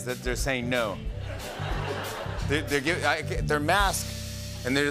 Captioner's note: laughter